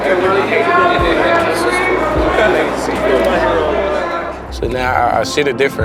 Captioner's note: spectators chattering